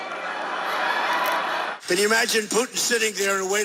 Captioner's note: cheering